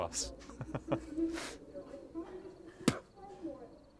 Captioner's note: laughs